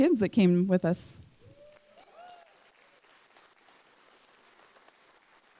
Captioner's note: applause